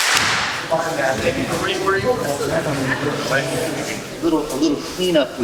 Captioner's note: clap; indistinct conversation